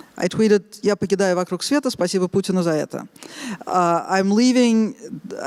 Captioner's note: speaking Russian